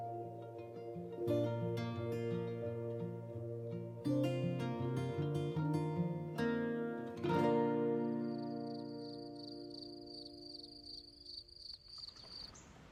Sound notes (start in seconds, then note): 7.7 sound of crickets in the night